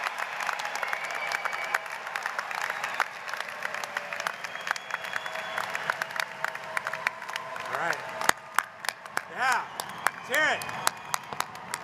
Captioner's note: applause